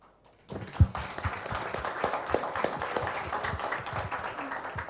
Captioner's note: applause